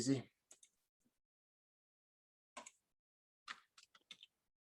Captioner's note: keyboard pattering